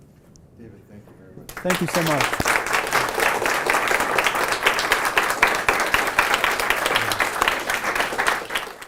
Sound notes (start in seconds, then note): 1.4 applause